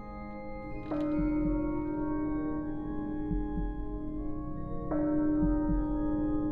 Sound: bell tolling; heart beating

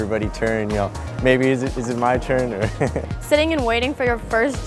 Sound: laughs

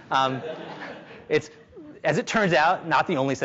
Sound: audience laughs

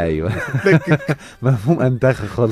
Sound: laughs!

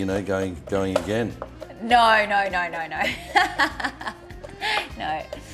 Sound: laughs

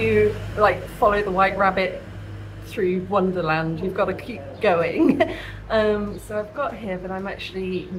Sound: laughing

